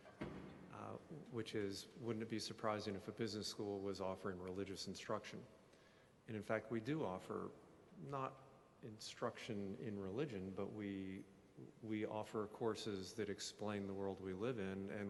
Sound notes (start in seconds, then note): none